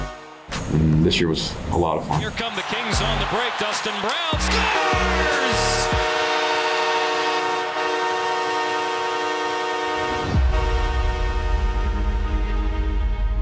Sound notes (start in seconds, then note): 4.8 horns blowing; 9.6 inspiring music